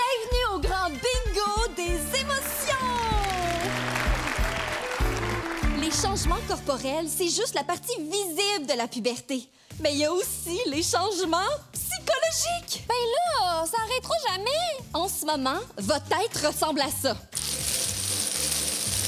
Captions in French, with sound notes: Bienvenue au grand bingo des émotions! (applaudissements) Les changements corporels, c'est juste la partie visible de la puberté. Mais il y a aussi les changements psychologiques! - Bien, là! Ça arrêtera jamais! - En ce moment, votre tête ressemble à ça.